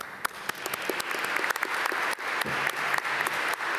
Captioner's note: applause